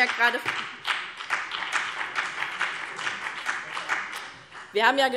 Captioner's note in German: Beifall BÜNDNIS 90/DIE GRÜNEN